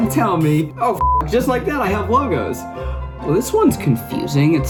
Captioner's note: beep